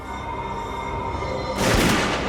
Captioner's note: gunshot